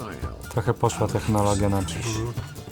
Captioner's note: in Polish